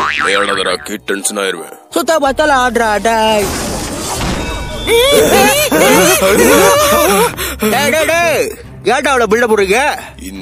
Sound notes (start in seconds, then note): 4.4 indistinct Chatter